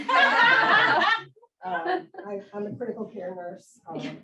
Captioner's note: audience and speakers laugh